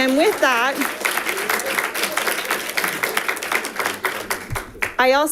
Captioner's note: audience applauding